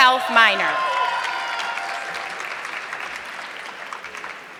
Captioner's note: audience clapping